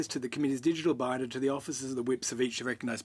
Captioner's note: speaking French